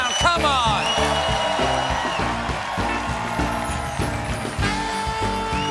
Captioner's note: cheers and applause; band playing